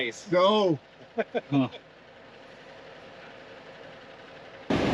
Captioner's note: chuckles